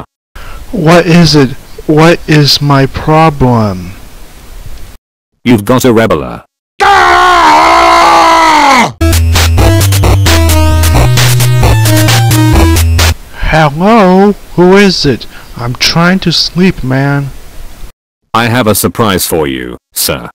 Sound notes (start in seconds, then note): 6.8 heavy Screaming; 8.3 Heavy's Phone Ring